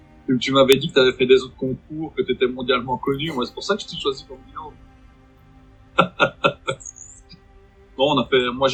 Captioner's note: laughs